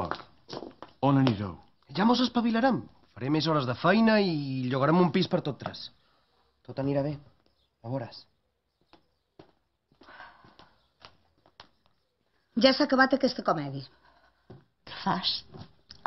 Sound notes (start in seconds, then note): none